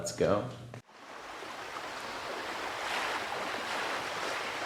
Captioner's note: waves rolling